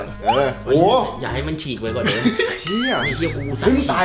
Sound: chuckles

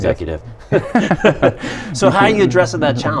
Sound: laughing

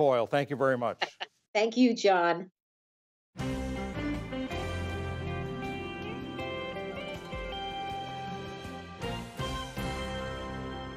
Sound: laughter

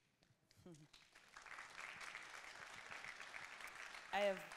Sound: audience claps

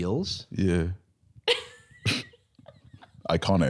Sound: laughing

